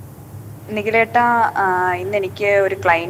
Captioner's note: on phone